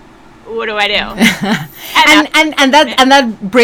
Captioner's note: person chuckles